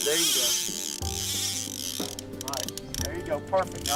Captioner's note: reel winding